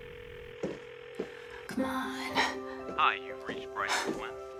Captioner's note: phone ringing